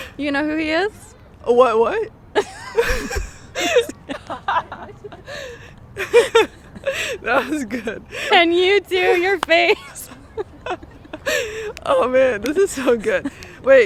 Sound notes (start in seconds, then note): 2.3 both laughing; 10.0 both laughing